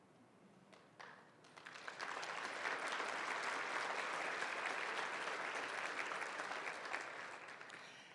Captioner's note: applause